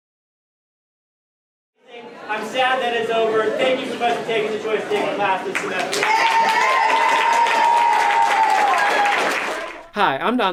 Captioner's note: class cheers